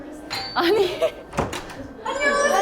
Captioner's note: ding-dong